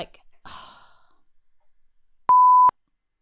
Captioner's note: exhale